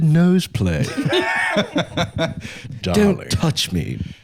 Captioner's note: laughing